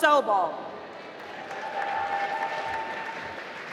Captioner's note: applause